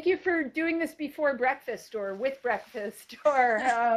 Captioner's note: laughs